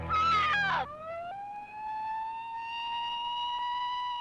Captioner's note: siren blaring